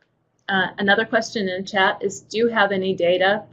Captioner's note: voiceover